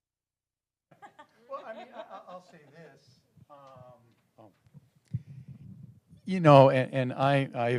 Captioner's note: laugh